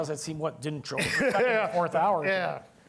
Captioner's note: laughter drowns out speech